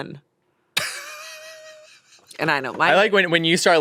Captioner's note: laughs